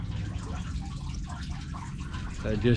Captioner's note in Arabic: الماء يقطر